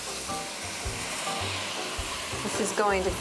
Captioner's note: sizzling